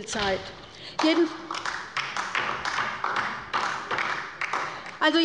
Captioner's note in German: Beifall bei der LINKEN